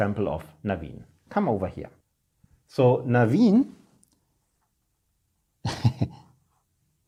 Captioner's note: chuckling